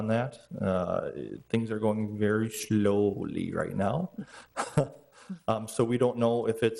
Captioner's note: chuckles